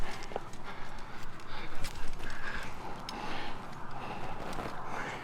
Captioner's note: breathing - Wind Blowing; intense Nonstop Breathing